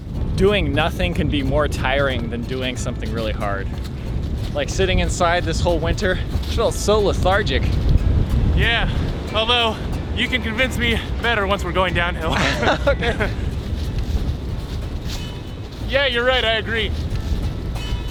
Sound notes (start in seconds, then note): 12.3 both laugh